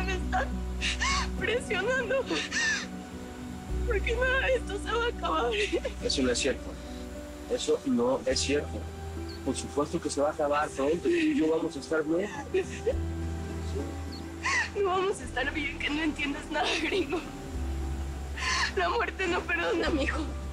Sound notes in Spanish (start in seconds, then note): 14.4 Sollozos